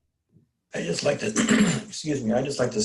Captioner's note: clears throat